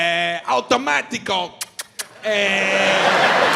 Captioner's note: smacks lips; audience laughs